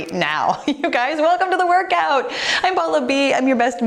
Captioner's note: giggles